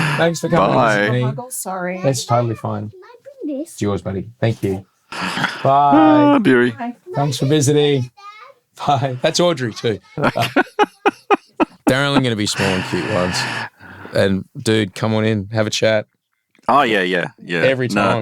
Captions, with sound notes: Thanks for coming. - Bye. - Sorry. - That's totally fine. - It's yours buddy. Thank you. Bye. - Bye, Bury. - Comes for visiting. Bye. - Thank you too. (laughing) - Darren, I'm going to be small and cute once. And dude, come on in, have a chat. - Oh yeah, yeah. - Every time.